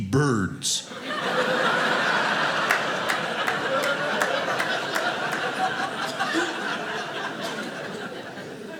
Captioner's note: audience laughing